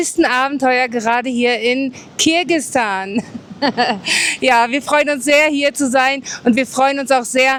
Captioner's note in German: gelächter